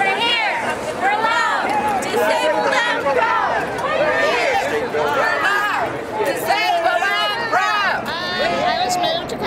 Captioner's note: chant